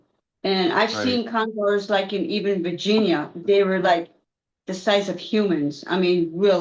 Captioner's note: clears throat